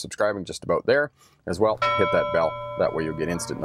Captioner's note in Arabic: جرس الجرس